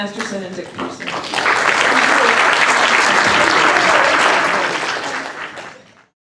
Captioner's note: applause